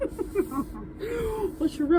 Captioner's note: laughing